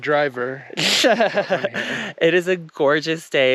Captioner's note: giggles